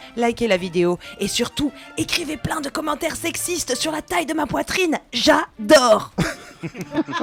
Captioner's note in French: rires